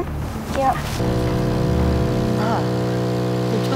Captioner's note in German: Lautes Maschinenbrummen